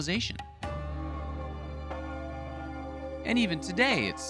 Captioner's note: bell ringing